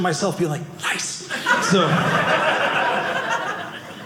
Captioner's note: audience laughing